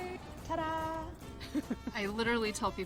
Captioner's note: chuckles